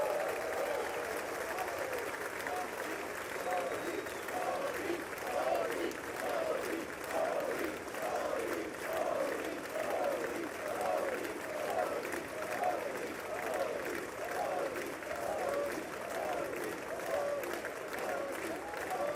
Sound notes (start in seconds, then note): 6.0 applause